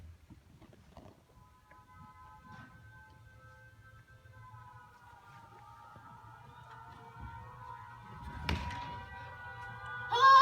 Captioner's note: air raid sirens